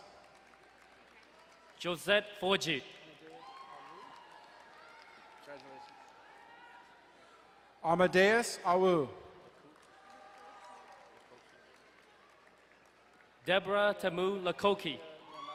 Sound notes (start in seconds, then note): 3.2 distant cheering; 9.4 crowd cheering and applauding; 15.2 crowd cheering and applauding